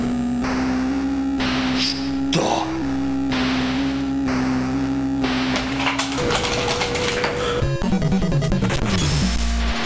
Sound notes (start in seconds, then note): 5.6 rattling joystick in hands; 7.6 dramatic music